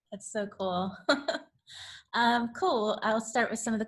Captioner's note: laughs